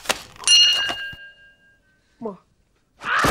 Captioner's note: bell dings